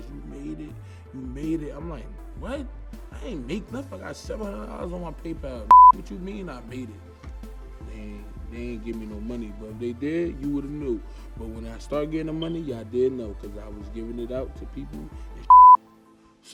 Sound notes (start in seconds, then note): 5.7 beep; 15.4 beep